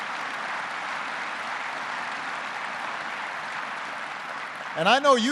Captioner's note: applause